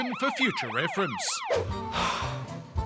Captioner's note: sighs